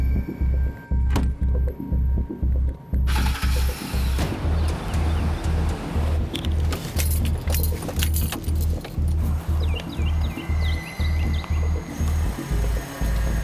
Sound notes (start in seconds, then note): 3.0 engine turns over; 8.9 bird chirps